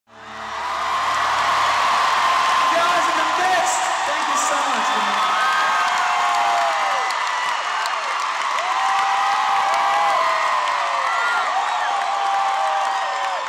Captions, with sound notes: (AUDIENCE CHEERING) - YOU GUYS ARE THE BEST! THANK YOU SO MUCH. (AUDIENCE CHEERING)